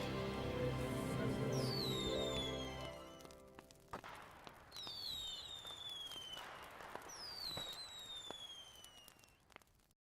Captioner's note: fire crackling and fireworks shooting and popping